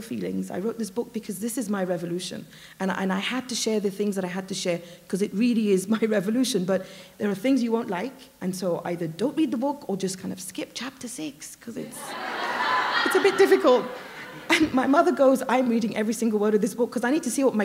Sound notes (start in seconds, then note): 11.9 laughter